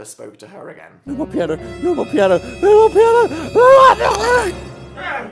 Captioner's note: babbles as sinister music intestifies